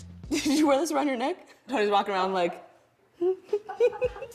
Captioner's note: humming melody